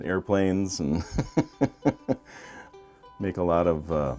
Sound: chuckles

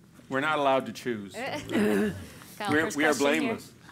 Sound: laugh

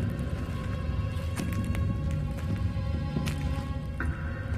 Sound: footsteps

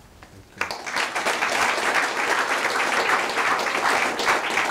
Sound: audience applauding

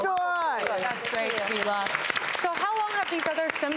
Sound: audience clapping

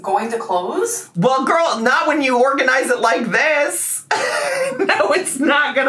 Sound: laughs

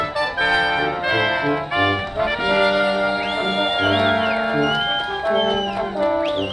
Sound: trumpets tooting; crowd cheering; trumpets tooting

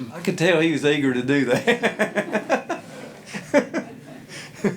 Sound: laughing

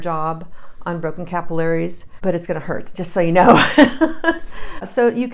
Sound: laughs

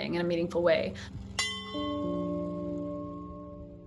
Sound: bell tolls

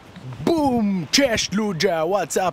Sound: speaking foreign language

